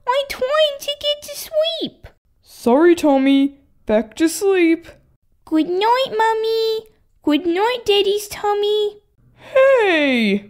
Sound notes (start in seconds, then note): none